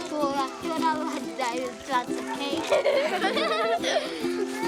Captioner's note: children laughing